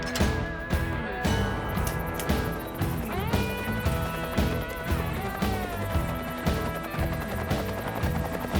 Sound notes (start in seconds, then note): 4.6 helicopters thrumming